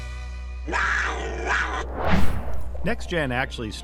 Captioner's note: cat growling